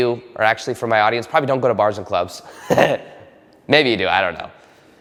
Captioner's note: laughs